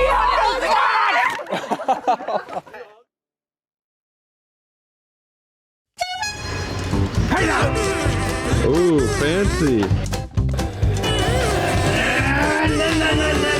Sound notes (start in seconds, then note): 1.9 laughing; 7.2 yells; 12.0 yelling